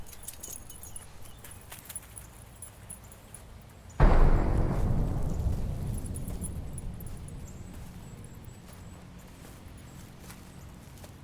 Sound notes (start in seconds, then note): 1.6 leash jingles; 4.0 ominous boom